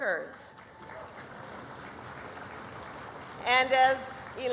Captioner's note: applause